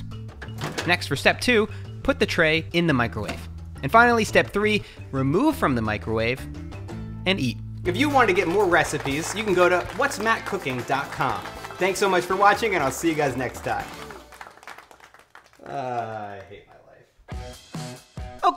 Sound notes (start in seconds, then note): 9.0 applause; 17.3 upbeat music